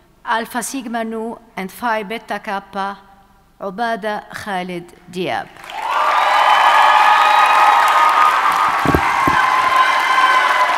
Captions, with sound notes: alpha-sigma-nu and phi-beta-kappa, Olbeda Halid Diab. (audience cheers and applauds)